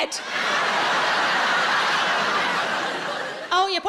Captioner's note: audience laughing